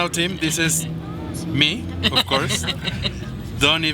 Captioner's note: person laughing